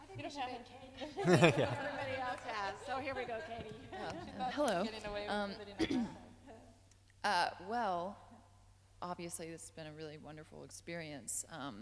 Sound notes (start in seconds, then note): 4.3 laughing; 5.8 clears throat